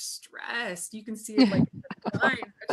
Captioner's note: laughs